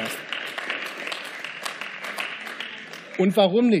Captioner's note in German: Beifall